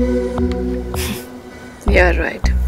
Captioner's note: Falguni scoffs